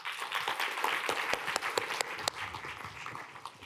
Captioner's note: applause